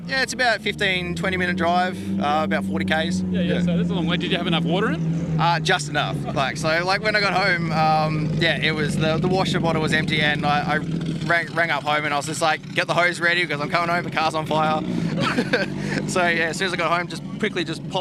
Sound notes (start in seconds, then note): 14.9 laughs